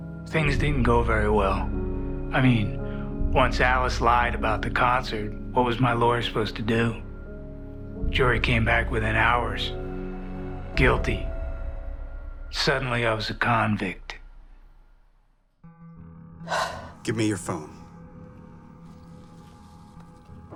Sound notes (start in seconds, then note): 16.4 intense music begins; 16.4 exhales sharply